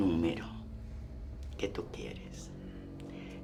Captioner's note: Spanish